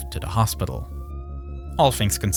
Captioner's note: siren wailing